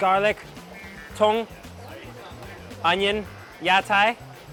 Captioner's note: speaks in a foreign language